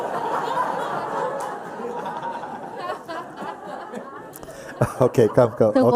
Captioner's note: laughter